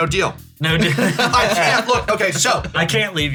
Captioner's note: laugh; laughs